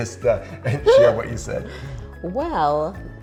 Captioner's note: chuckling